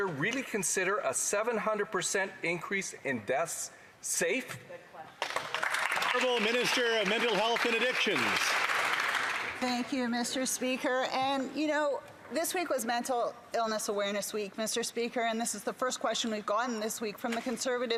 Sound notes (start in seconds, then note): 9.1 some Applause